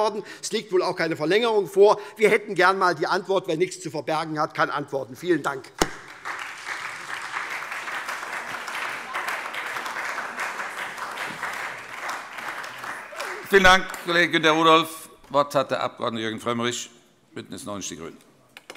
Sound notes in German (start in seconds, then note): 5.8 Beifall SPD